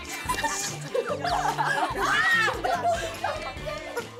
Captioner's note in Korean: 시끌시끌